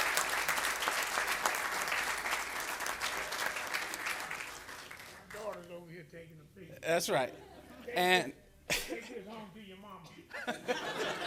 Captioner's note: applause